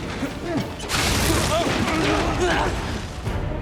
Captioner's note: both grunt